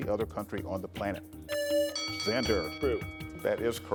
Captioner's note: buzzer buzzing